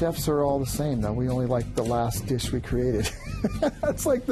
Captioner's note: laughs